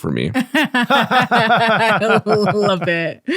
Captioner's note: laughing